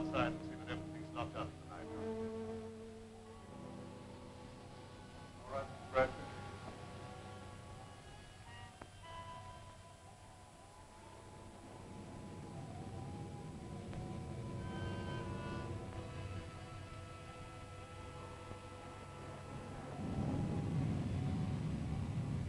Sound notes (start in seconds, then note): 7.2 thunder rumbling; 7.2 wind howling